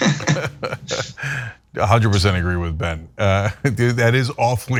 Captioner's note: laugh; laugh